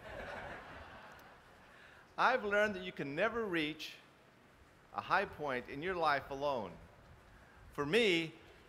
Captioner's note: laughter